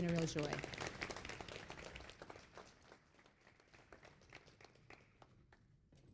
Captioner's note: applause